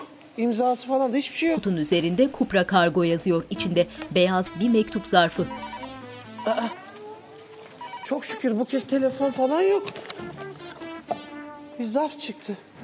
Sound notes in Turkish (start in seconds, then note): 4.4 Telefon zili sesi